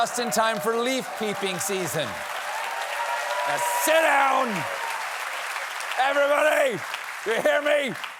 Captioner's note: applause